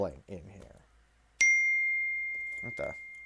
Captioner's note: ding